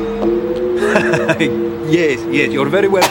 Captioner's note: chuckling